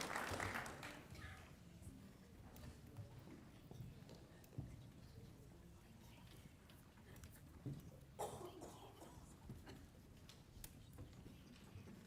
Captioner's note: applause